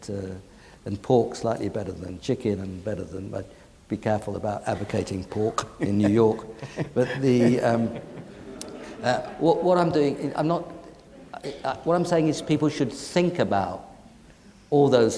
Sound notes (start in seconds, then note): 5.5 laughing; 5.6 audience laughing